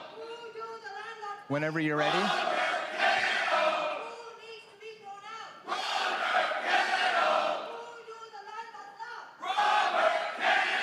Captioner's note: crowd chanting